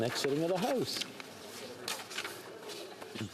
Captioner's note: speaking French